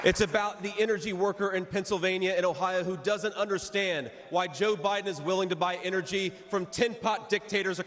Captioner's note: cheers and applause